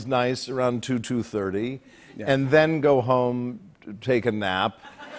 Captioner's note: laughter